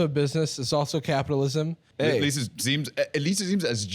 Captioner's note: laughs